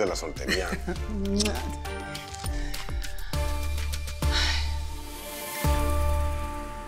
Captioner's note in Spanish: Risas